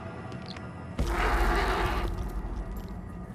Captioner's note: thud, rocks tumble